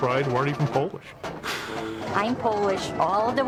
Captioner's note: laughs